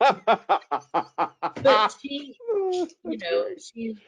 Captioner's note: laughs